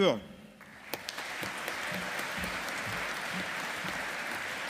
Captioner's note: audience applauding